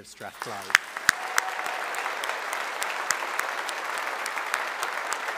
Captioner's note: audience applauding